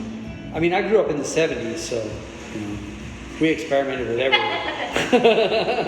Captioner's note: laughs